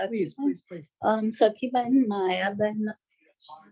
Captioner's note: non-english speech